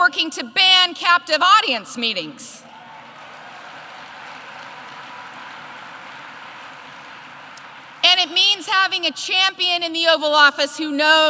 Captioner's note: applause